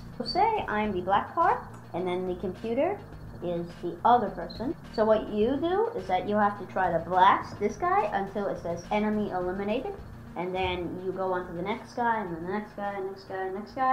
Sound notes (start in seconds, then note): none